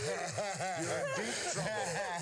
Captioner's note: laugh